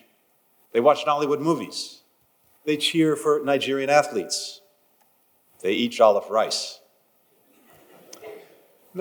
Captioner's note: laughter